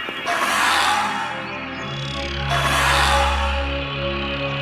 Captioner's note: ethereal music continues; dinosaur squawking